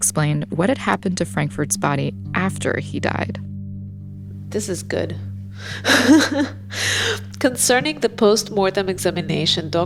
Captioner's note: laughs